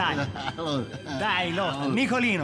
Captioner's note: Furia drunkely laughing